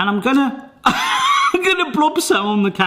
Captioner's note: laughs